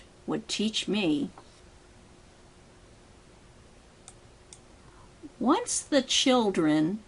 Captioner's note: mouse click for each underlined phrase